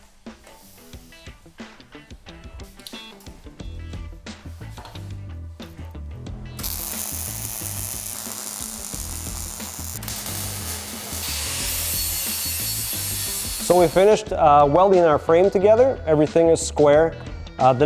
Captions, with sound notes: (buzzing) (grinding) So we've finished welding our frame together, everything is square.